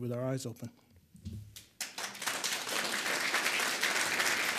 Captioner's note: audience applauds